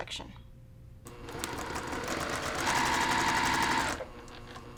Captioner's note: sewing